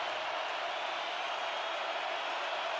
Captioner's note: crowd cheering